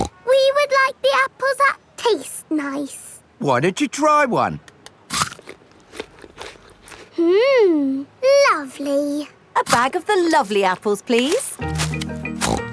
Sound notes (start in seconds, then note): 0.0 snorts; 5.0 crunches